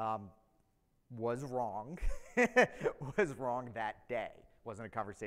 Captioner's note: laughs